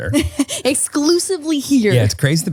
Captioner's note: laughs